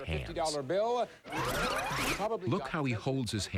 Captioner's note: sound effect of rewinding tape